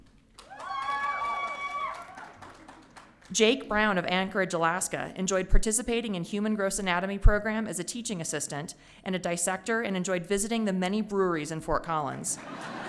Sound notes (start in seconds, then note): 0.4 audience cheering; 12.4 audience laughing